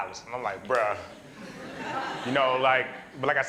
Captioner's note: laughter